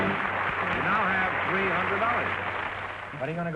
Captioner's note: triumphant music & applause; applause